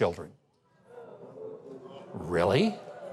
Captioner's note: audience gasps